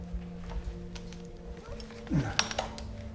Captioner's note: groan